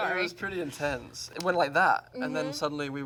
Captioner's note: snaps